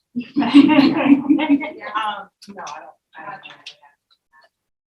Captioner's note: all laughing